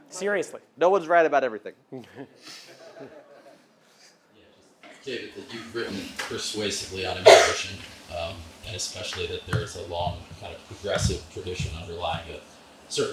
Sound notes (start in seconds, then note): 2.5 audience laughing